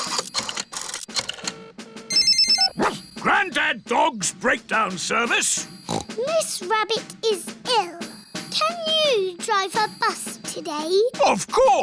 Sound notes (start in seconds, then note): 1.0 line rings; 2.9 barks; 5.7 snorts